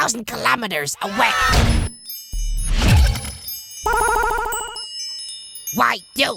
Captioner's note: scream